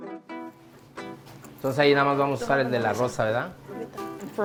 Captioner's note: speaking spanish